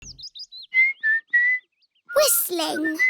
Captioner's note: whistling